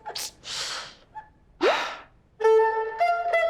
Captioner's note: sigh